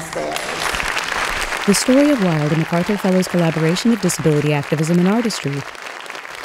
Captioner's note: applause, cheers